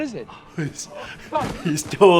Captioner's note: Lord Bridgerton gasping